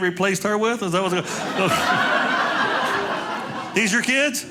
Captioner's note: audience laughing